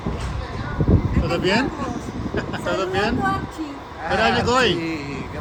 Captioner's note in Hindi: स्पेनिश में बोलते हुए